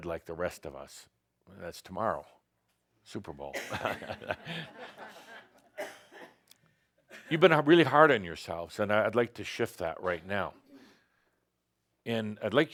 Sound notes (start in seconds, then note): 3.6 some chuckles